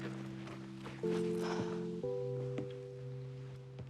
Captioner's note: sighing